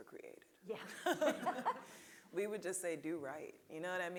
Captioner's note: laughing